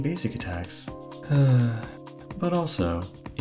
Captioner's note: sigh